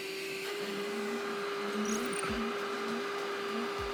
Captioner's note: engine whirring